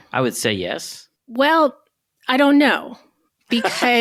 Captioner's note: chuckling